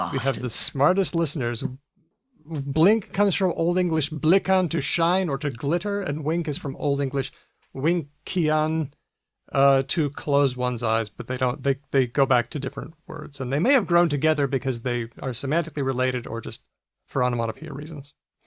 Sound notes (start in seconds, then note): none